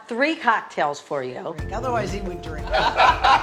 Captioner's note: all chattering, laughing